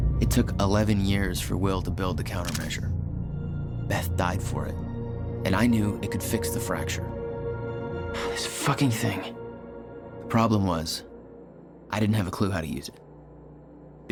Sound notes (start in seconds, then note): 8.4 takes the Countermeasure and sighs